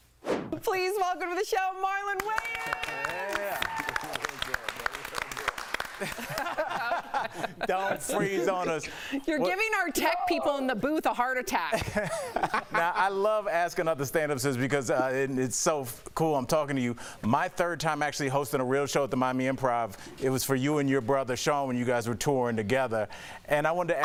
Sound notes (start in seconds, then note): 11.7 laughter